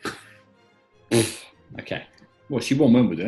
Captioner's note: splutters; chuckling